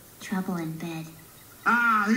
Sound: whispering

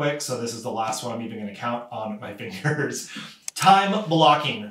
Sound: giggles

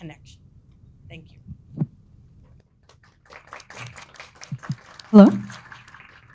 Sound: audience applauding

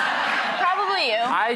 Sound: crowd laughs

